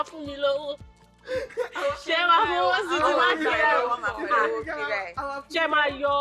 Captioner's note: laughs